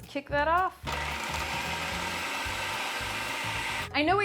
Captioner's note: food processor whirring